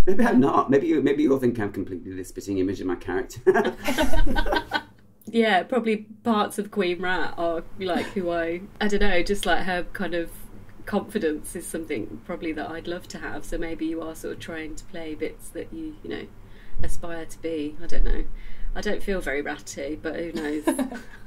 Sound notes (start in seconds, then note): 3.4 laughter